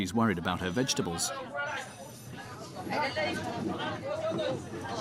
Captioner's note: indistinct chatters